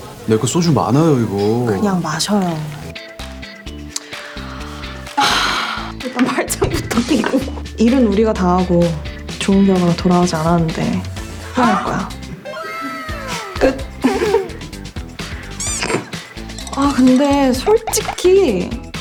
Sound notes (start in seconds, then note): 5.1 sigh